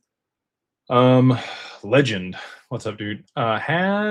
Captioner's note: sighs